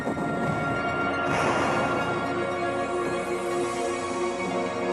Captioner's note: heavy artillery booming